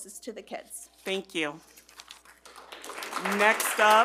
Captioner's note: attendees clap